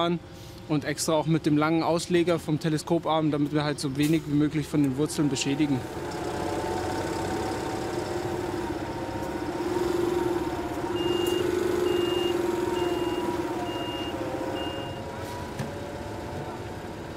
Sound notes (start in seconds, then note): 6.6 engine humming; 11.7 repeated beeping; 14.9 quiet babble of voices